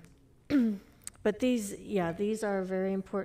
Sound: clears throat

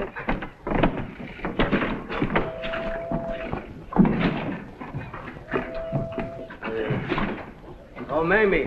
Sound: footsteps on the dock - boat whistles

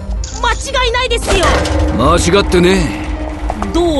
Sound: Cris hits ship exterior

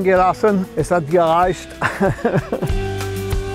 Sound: laughs

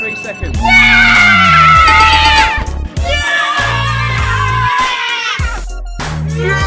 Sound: knocking

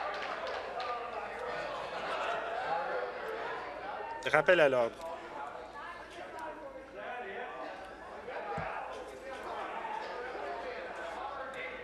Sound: applause

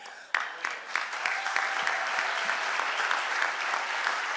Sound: audience applauding

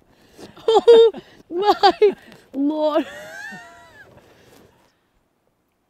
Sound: laughs

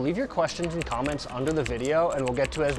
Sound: keyboard clacking

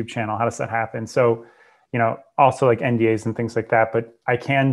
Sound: breath

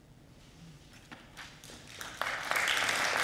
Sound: audience clapping

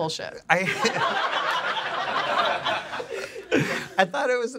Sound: audience laughs

